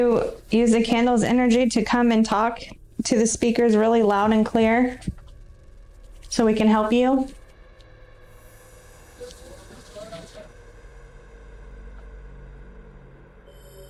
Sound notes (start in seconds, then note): 8.9 wind noises